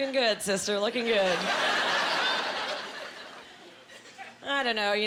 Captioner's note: laughing